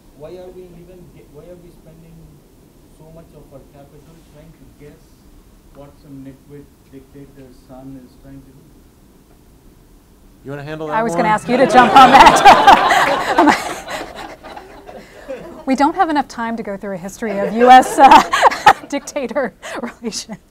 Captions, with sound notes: Why are we spending so much of our capital trying to guess what some nitwit dictator's son is trying to do? - You wanna handle that one? - I was gonna ask you to jump on that. (audience laughing) We don't have enough time to go through a history of US (laughing) dictator relations.